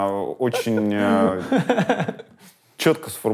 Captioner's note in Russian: смеется